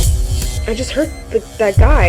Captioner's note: electricity buzzing; monitor beeping